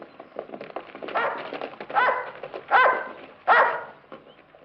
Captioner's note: dog barking